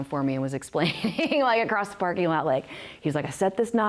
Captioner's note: risos